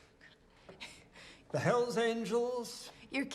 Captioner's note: Kate chuckles